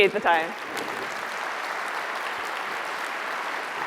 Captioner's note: applause